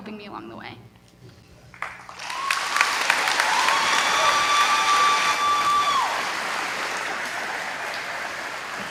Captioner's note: applause